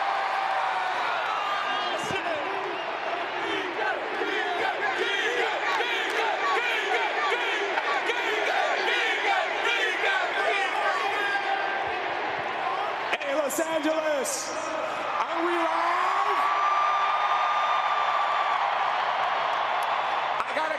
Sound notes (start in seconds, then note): 8.3 speaking in native tongue